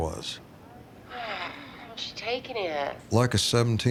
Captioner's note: sighs